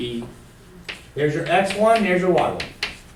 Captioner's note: voiceover